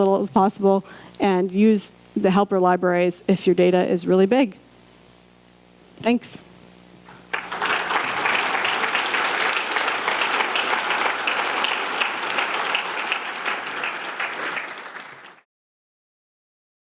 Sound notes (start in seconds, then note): 6.1 clapping